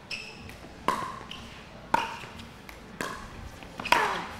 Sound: ball bouncing

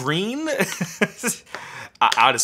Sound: laughing

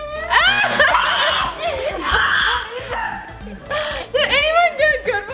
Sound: screaming; laughing; buzzer

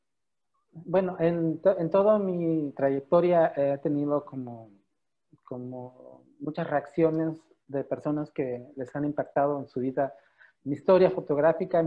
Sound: in Spanish

